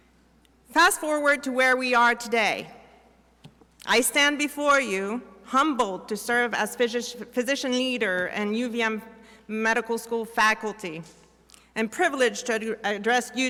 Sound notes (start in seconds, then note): none